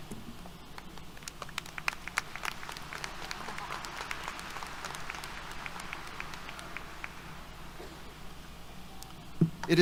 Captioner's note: applause